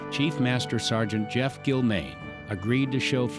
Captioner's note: none